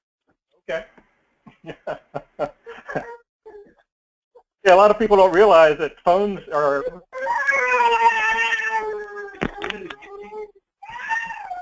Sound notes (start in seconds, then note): 1.6 laugh